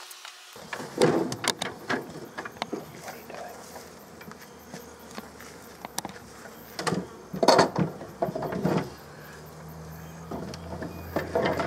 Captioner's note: moving Frames Noise